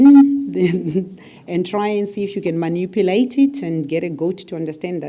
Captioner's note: laugh